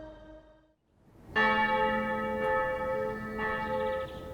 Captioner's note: bell tolls